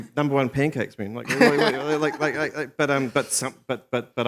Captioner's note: laughter